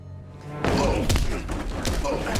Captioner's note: punch; punching; stomp